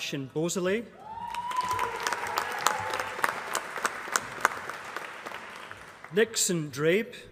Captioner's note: applause